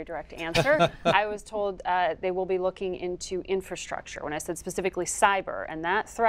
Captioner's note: laughter